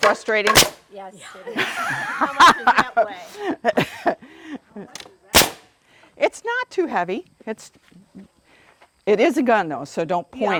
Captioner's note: laughter